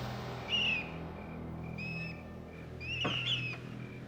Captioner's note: dramatic music; mouse squeaking